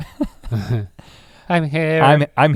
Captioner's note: chuckles